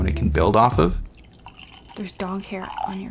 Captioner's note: wine gurgling